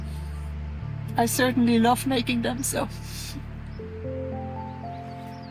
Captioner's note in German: lacht